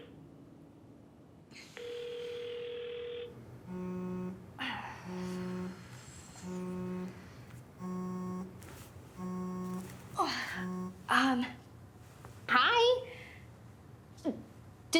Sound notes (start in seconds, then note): 0.2 phone ringing; 5.0 phone buzzing